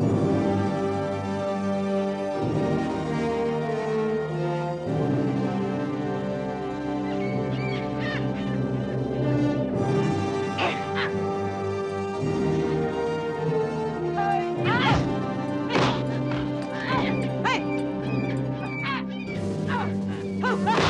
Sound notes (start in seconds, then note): 12.6 grunting; 16.5 hitting